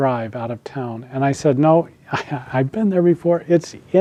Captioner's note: laughs